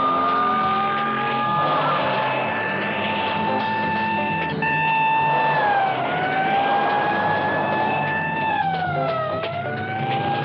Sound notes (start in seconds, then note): 4.4 siren blaring